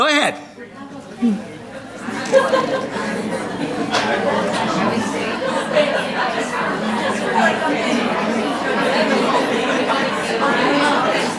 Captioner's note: audience chatter